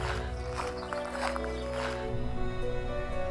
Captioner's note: birdsong